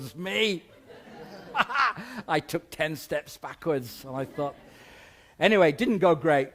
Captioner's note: chuckles